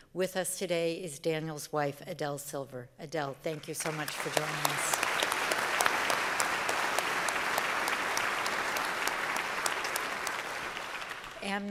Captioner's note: applause